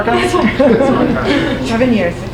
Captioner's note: audience laughing